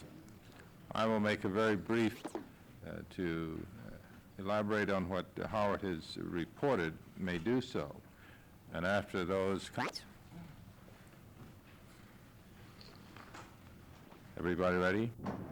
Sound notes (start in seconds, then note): 9.8 camera noise